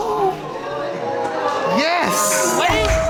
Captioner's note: audience gasping